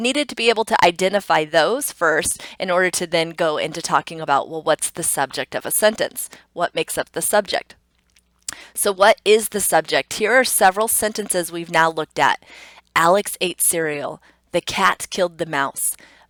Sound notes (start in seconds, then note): 8.4 tongue clicks